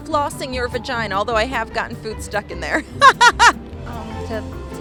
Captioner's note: laughs